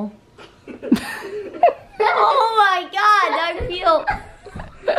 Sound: laughing

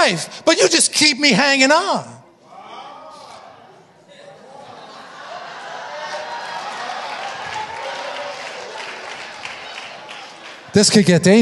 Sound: audience cheering

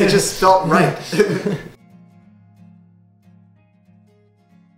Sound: laughs

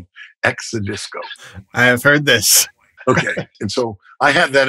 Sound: laughter

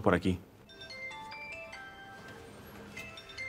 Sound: mobile rings

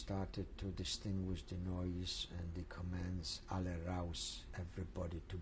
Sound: speaking german

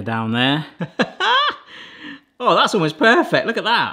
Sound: laughs

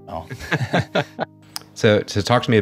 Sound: laughing

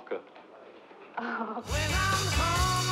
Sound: laughs

